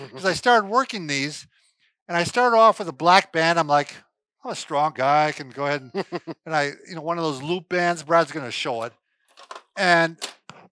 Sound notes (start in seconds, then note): 5.6 laughing